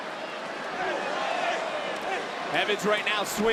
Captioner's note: crowd roars